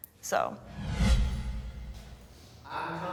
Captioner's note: dramatic whooshing